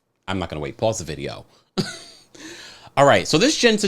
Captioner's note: laughs